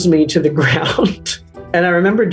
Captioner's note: Michael laughing